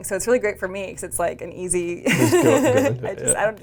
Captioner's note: laughs